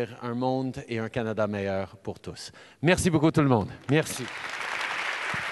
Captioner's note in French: Applaudissements